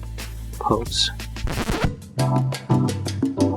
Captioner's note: record scratch